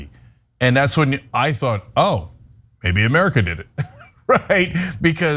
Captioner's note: laugh